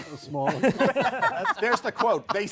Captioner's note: laughter